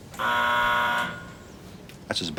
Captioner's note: buzzer sounds